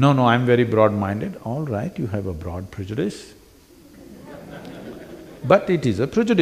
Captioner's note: laughter; 笑聲